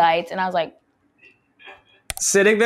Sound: chuckles

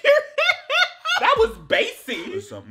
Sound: laughing

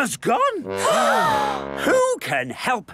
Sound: all gasp

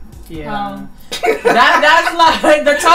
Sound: laughs

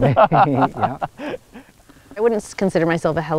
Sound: laughing

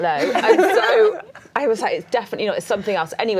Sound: laughing

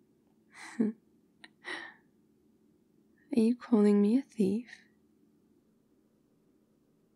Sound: cheeky laugh

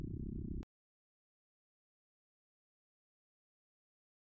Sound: rumbling stops

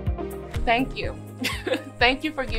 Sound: laughs

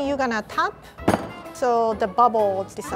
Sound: drops pan

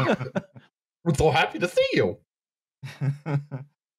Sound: laughs; silly voice; short laugh

